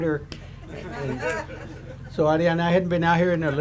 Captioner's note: audience laughs